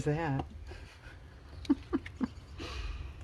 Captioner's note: laughs